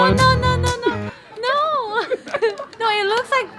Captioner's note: laughing